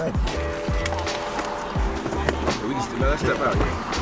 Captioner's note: seatbelt clicks